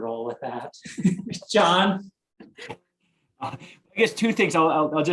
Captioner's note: all chuckling